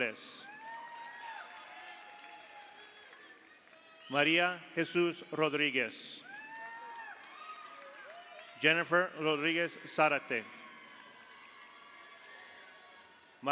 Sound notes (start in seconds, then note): 0.2 audience cheers; 0.3 audience applauds; 6.2 audience cheers; 10.7 audience applauds; 10.7 audience cheers